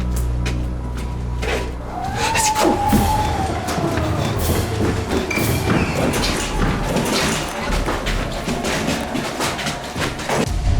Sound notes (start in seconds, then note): 1.9 cat growling; 2.0 speaks French; 3.8 tense anxious music